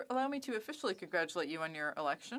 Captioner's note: speaking French